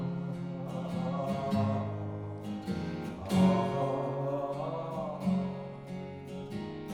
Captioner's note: humming